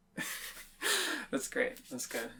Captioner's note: laughing